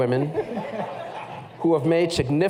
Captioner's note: laughter